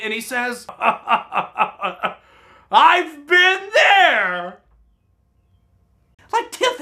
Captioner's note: laughs